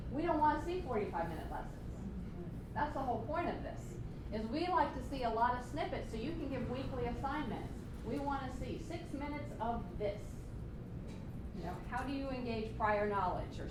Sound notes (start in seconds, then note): none